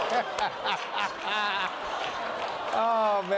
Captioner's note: laughter